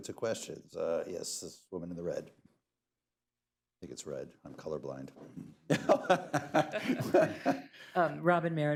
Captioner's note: laughter